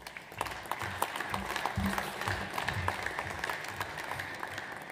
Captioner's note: audience applauds